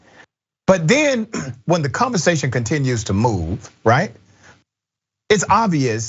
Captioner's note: cough